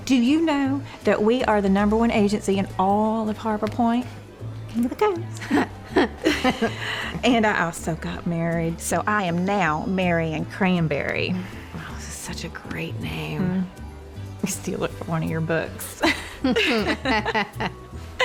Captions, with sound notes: DO YOU KNOW THAT WE ARE THE NUMBER ONE AGENCY IN AOF HARBOR POINTE? KING OF THE COAST! [CHUCKLING] AND I ALSO GOT MARRIED SO I AM NOW MARIAN CRANBERRY. [SAYS SARCASTICALLY] OH, THAT'S SUCH A GREAT NAME. YOU CAN STEAL IT FOR ONE OF YOUR BOOKS. [BOTH CHUCKLING]